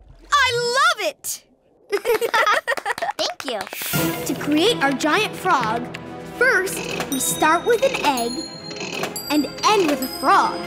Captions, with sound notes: I love it! [laughing] Thank you. To create our giant frog, first, we start with an egg and end with a frog.